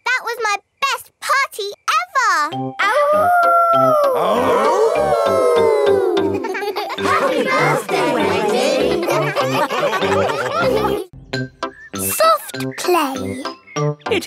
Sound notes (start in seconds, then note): 3.7 all howling; 4.1 howling; 9.6 all laughing